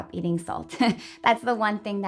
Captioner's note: laughing